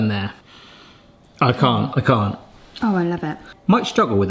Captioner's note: inhales